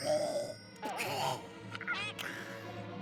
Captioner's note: coughing; gagging